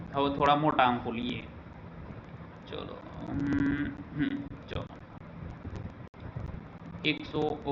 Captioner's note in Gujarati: ગળું સાફ કરે છે